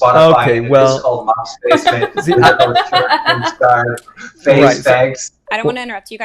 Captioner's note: laughs